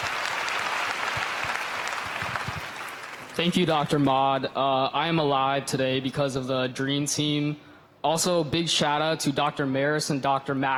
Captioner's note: applause